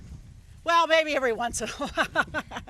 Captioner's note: laughing